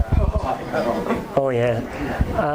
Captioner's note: audience laughs